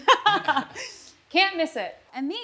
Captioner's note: laughter